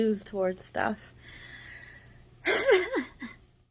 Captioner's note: laughs